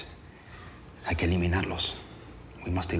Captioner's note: speaking spanish